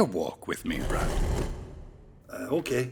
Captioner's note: dragging concrete sound